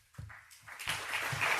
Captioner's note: applause